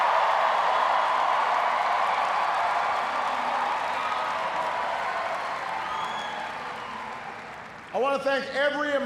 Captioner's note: cheers, applause